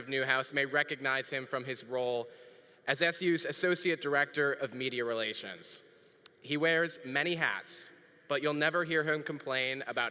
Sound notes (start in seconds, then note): none